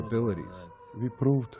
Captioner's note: through translator